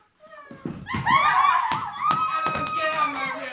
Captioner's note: laughing